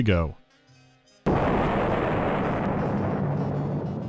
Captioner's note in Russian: бущ